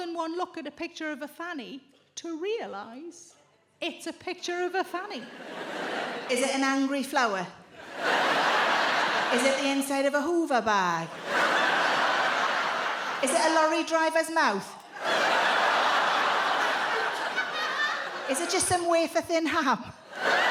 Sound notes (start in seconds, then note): 7.8 audience laughs; 15.0 audience laughs, groans